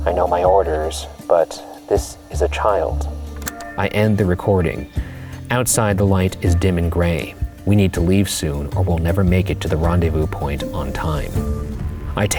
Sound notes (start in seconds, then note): 3.3 button clicks